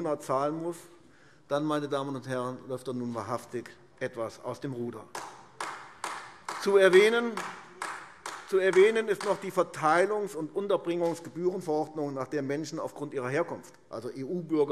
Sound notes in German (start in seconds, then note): 5.1 Beifall AfD